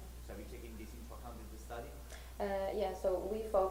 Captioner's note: voiceover